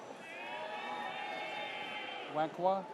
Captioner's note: audience cheers